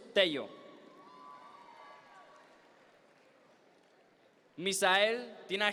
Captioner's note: audience members cheer